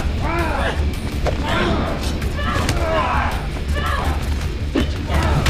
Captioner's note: thudding; both grunting